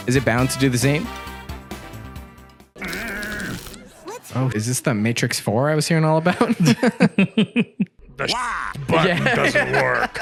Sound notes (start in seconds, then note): 2.8 frustrated groan; 2.8 electronic buzz; 6.3 both laughing; 10.0 laughs